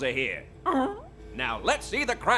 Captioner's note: bark?